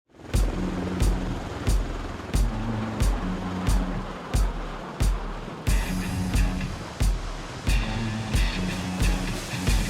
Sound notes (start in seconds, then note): 0.0 helicopter engine roaring; 2.1 upbeat music